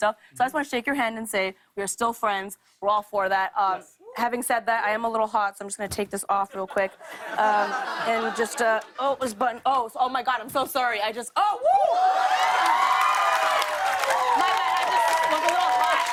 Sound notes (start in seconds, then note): 6.5 laughter; 11.6 cheering and applause; 15.9 applause